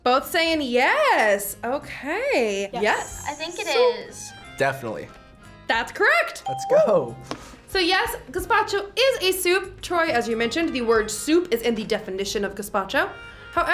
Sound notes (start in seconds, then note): 6.4 bell rings